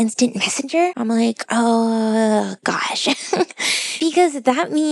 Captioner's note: laughs